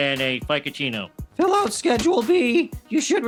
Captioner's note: fast food worker, breaking voice